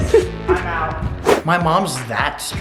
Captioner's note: laughing